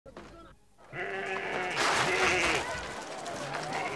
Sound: goats bleat

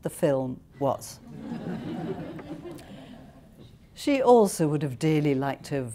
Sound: laughter

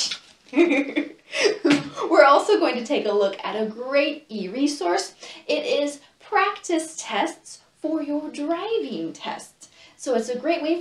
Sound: laughs

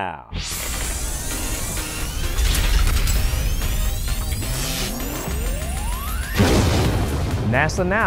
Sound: sound Effects

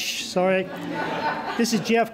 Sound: laughter

